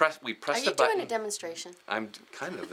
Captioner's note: giggles